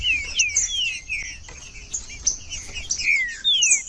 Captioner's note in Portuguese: trinca ferro cantando